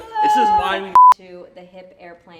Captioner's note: beep